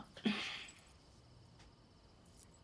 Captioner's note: Clive chuckles